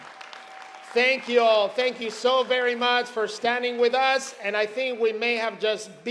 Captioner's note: cheers and applause